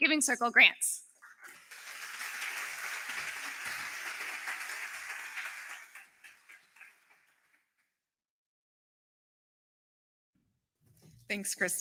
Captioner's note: applause